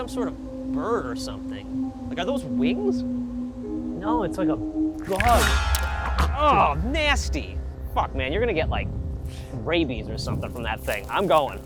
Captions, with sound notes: - Looks like some sort of bird or something, Like, are those wings? - No, it's like a-- (squelch) (splat) - Oh, nasty! Fuck man, you're gonna get like rabies or something from that thing.